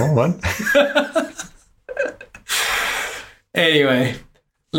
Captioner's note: laughs